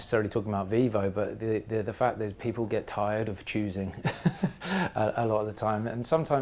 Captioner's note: laugh